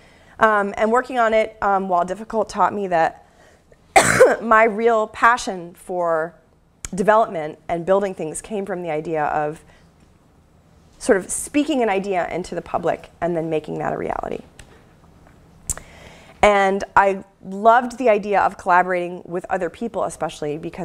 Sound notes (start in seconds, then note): 3.9 cough